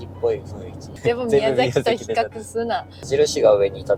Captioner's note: laughs